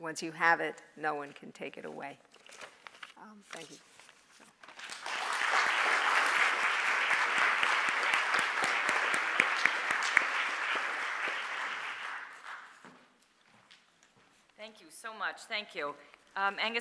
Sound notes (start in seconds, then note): 4.7 applause